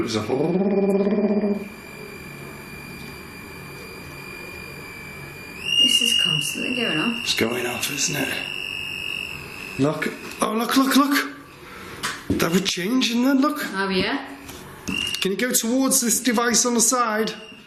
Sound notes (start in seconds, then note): 1.8 imitating voice; 2.6 device ringing